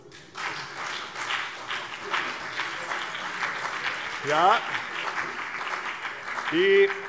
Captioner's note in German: Beifall CDU und BÜNDNIS 90/DIE GRÜNEN